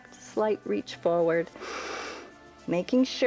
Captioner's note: inhales